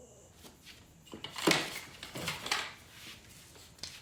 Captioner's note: sound of door opening